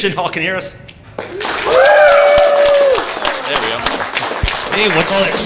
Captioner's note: louder Applause